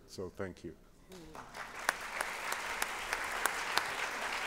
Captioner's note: applause